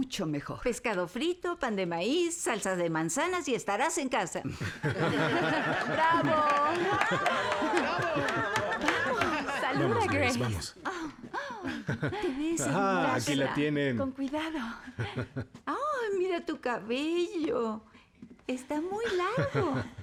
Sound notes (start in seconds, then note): 4.7 laughter, applause